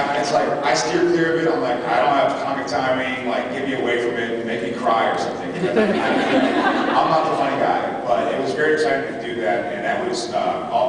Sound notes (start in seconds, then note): 5.5 laughs